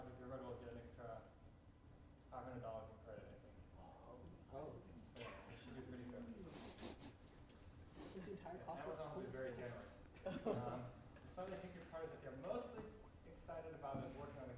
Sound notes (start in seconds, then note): 5.4 sighs